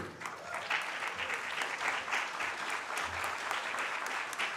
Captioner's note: audience claps